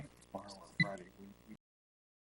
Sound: speaking faintly

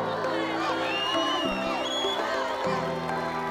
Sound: cheering, applause; inspirational music

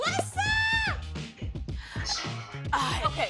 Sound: laughs

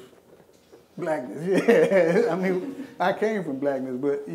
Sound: laughing

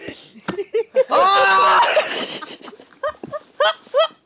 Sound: wailing

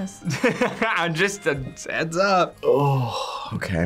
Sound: laughs

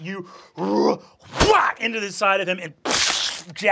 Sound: grunts; sprays

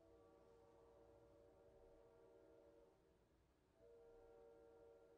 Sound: train whistle in distance

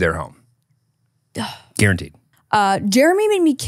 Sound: sighing

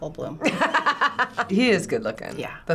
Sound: laughing

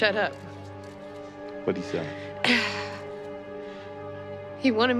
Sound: sighs

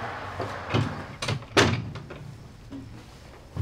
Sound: door closing

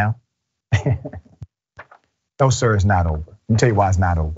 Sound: laugh

